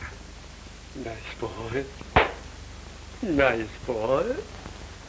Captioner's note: claps